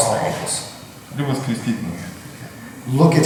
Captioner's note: speaking in a foreign language